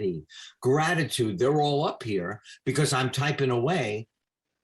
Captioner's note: none